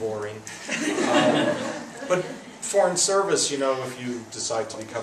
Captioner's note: laughs